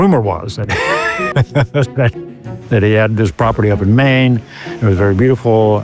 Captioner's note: laughing